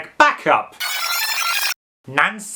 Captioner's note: tape rewinds